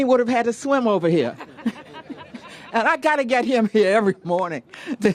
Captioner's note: laughter